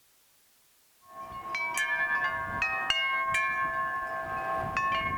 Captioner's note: wind chimes ringing